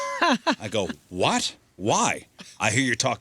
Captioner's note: laughing